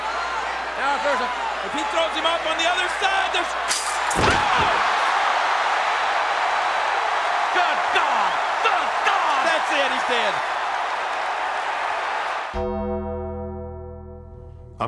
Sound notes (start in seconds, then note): 4.6 body thuds; 4.6 crowd cheering; 13.1 dramatic music